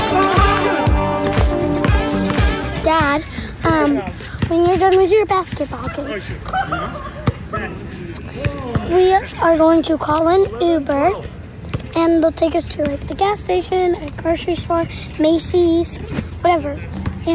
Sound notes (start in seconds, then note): 5.3 players chattering; 6.4 dad laughing